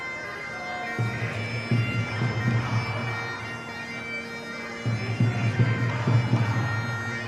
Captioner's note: crowd chanting; drums thumping